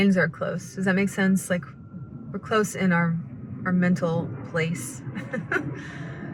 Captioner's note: laughs